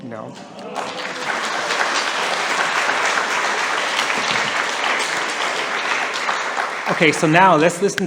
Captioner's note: applause